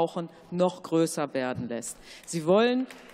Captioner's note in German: Beifall